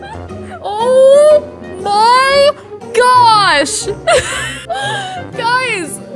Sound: laughs

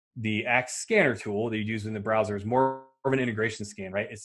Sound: none

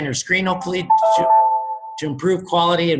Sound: computer beeps

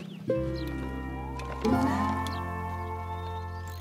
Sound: cranking noises

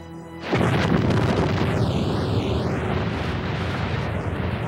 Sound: explosion booming

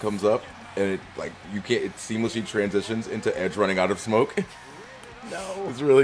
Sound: laugh

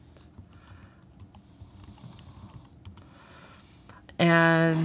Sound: keyboard clicking

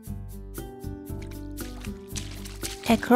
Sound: water splashes

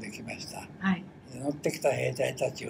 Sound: foreign language

